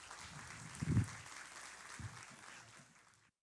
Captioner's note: applauding